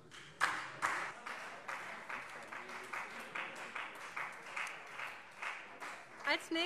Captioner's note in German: Beifall Freie Demokraten